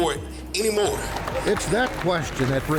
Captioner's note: crowd clapping